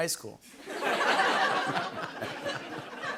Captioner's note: laughter